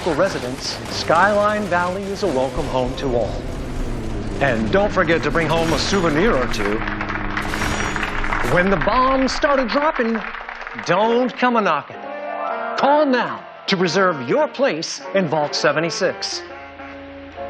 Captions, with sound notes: to its majestic wildlife and friendly local residents, Skyline Valley is a welcome home to all. And don't forget to bring home a souvenir or two! [audience applauding] When the bombs start a-dropping, don't come a-knocking! Call now to reserve your place in Vault 76.